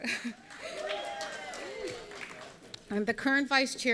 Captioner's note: audience applauding